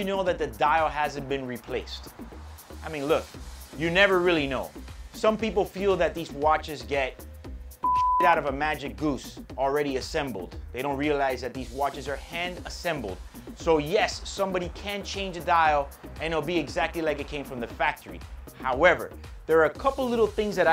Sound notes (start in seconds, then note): 7.8 beep